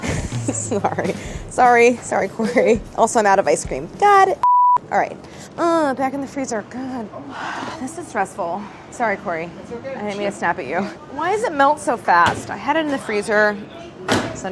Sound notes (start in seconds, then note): 0.0 laugh; 7.7 sighs